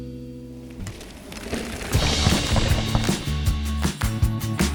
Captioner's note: gravel crushing; upbeat music